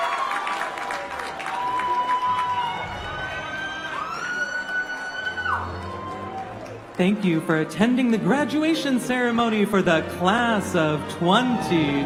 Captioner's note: cheering and applause